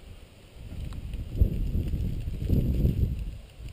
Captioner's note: blowing wind